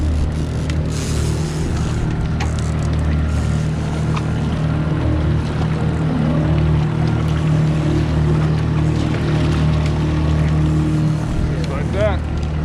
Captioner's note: reel cranking; boat enging running